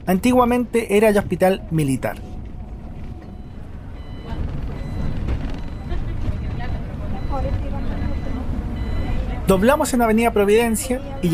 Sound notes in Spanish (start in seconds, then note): 3.1 Sonido de timbre del bus, y de viraje